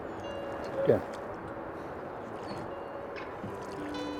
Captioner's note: rippling water